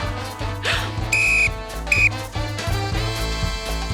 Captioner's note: laughs; blows whistle